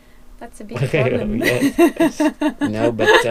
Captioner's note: laughs